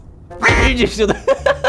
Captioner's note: freaking out